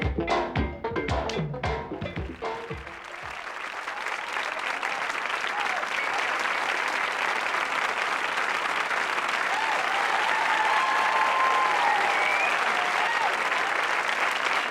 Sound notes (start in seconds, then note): 2.0 audience applauds, hoots and whistles; 9.3 applause increases